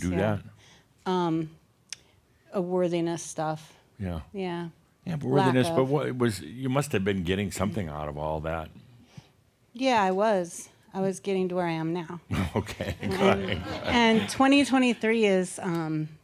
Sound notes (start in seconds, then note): 12.3 chuckles